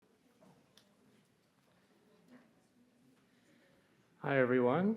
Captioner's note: attendees chattering